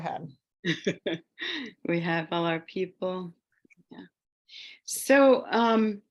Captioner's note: laughs